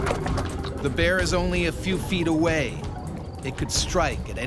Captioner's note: voiceover